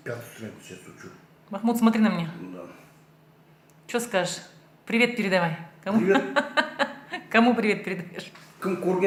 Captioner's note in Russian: смех